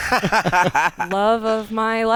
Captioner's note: laughter